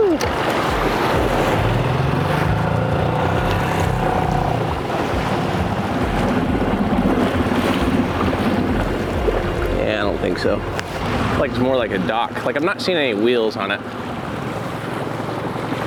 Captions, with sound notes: Woo. (boat engine roaring) (waves crashing) Yeah, I don't think so. Looks like it's more like a dock. Like, I'm not seeing any wheels on it.